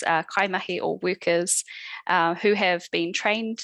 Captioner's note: non-english speech